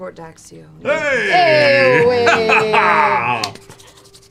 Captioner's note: laughter